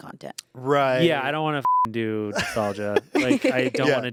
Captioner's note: beep